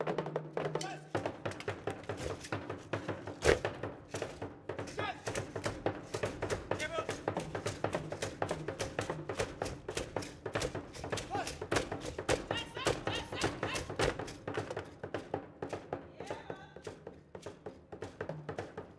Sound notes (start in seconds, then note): 0.0 whistling and drum beating; 0.2 drum beating and beads rattling; 12.8 woman shouting; 14.6 drum beating and beads rattling